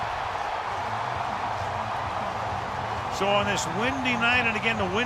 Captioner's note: cheering